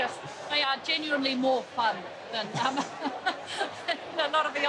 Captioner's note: laughs